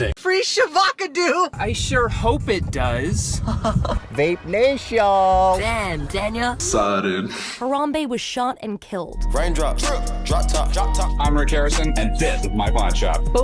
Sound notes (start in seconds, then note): 3.4 chuckle